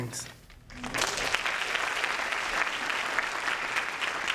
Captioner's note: applause